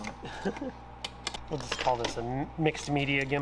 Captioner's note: laughs